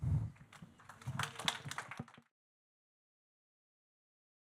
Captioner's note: audience clapping